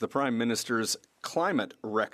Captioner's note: speaking French